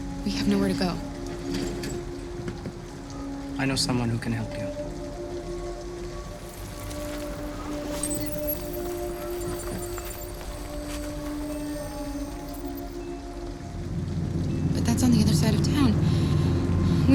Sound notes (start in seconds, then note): 7.9 beeping, trilling